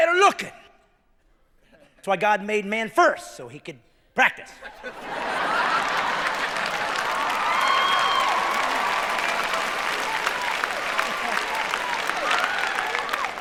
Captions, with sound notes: You're the more attractive man. Better looking. That's why God made man first, so he could, practice. [cheering]